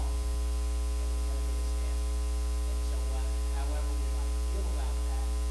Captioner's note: speaking faintly